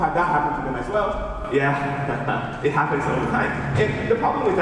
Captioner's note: laughs